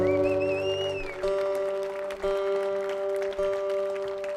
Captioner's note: audience applauding